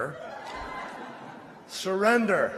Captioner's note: laughter